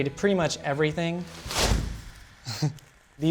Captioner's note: whoosh of the 5-in-one reflector